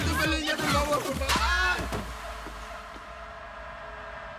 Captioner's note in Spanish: Grito